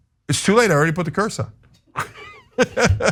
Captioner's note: laugh